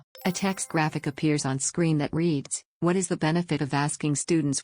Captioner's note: chime